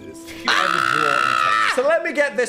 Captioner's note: screams